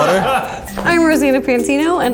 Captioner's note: laughs